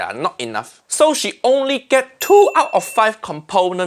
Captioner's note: bell dinging